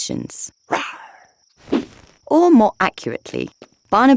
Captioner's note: Paul roaring softly